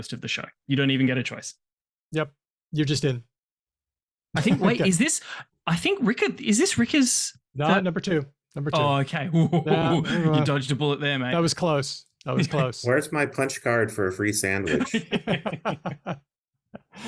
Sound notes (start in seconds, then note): 9.3 laughs; 14.6 laughter